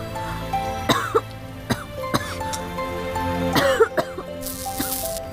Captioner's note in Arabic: سعال